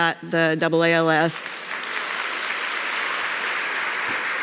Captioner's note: applause